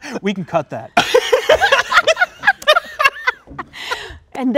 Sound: all laughing

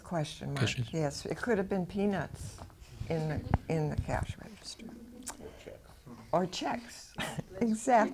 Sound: laughs

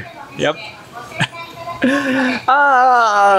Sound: laugh

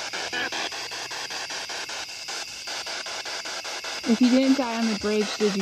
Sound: loud, choppy static

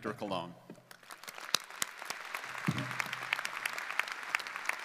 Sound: audience applauding

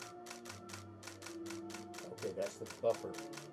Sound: shutter clicks getting irregular, labored; shutter clicks slowing down, laboring

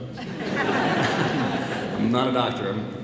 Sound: audience laughs

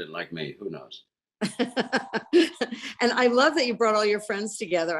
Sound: laughs

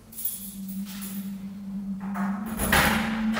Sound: keys jingling, lock being opened

